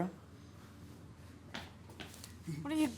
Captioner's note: footsteps echo